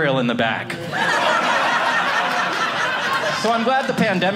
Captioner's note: audience laughing